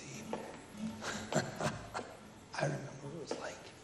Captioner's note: laughs